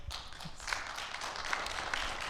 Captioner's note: audience clapping